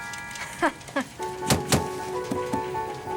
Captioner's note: soft music; chuckling; exciting music